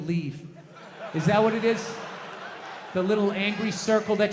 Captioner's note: audience laughs